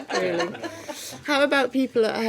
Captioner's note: laughing